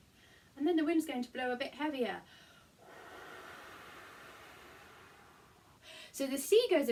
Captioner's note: blow